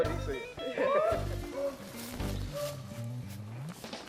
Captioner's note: laughs